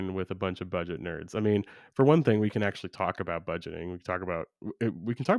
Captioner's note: none